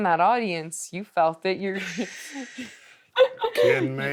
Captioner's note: laughs